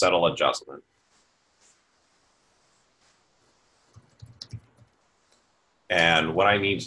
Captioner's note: typing Sounds